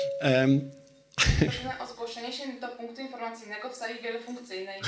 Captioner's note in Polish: komunikat z radiowęzła; śmiech